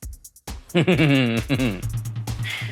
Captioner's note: laughs